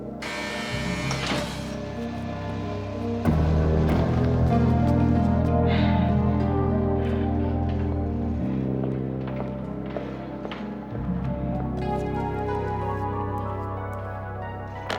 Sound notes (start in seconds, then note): 0.2 door buzzes; 3.0 music intensifies; 5.4 exhales heavily